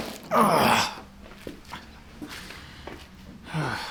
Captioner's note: man groans